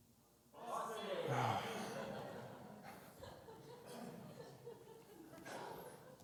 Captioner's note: crowd